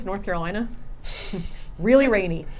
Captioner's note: laughing